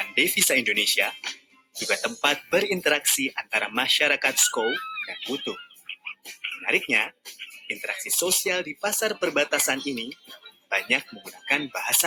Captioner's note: talking in Bahasa Indonesia